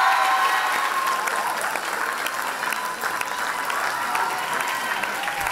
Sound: loud applause and cheers

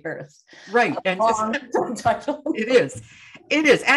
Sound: laughs

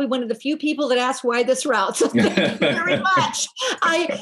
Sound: laughing

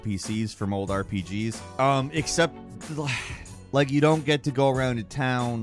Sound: sighs

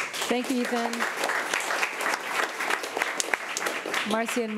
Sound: crowd clapping

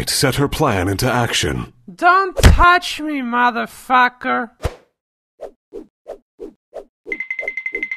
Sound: slurring

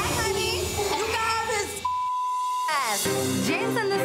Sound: beep

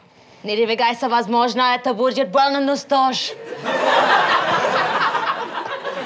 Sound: speaking Russian

